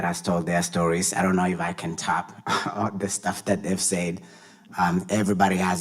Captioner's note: chuckles